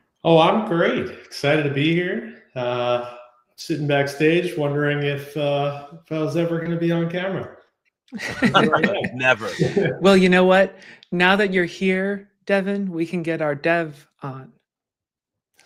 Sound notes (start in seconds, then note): 8.1 chuckles; 8.2 laughs